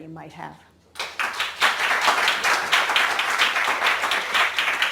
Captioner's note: audience clapping